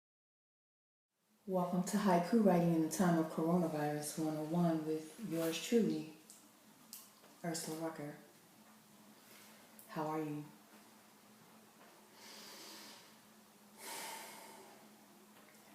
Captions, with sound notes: - Welcome to haiku writing in the time of Coronavirus 101 with yours truly, Ursula Rucker. How are you? (deep breath)